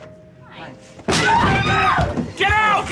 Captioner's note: sound of impact, woman crying